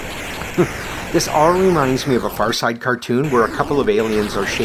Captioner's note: chuckles